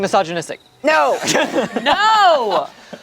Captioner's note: group laughs